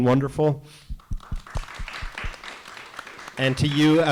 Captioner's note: audience applauding